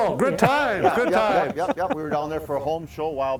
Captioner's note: laughter